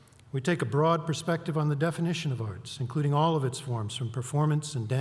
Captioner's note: none